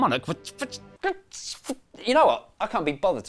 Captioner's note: spluttering